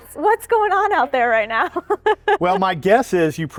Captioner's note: laughs